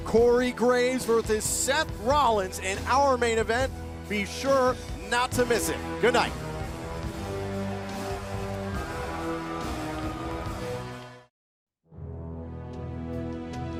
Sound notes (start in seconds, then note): 6.6 crowd cheering